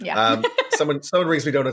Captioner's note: laughs